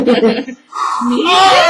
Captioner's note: laughs; blows air